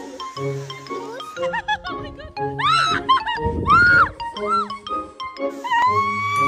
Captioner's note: scream; laugh; scream